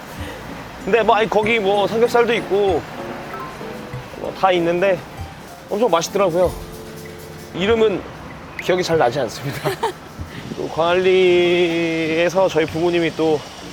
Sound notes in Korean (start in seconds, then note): 9.4 웃음